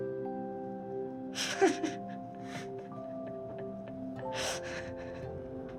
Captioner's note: laughing